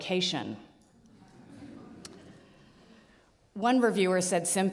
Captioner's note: audience laughs